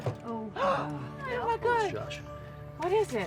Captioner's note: gasps